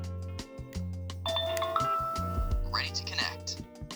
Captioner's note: camera dings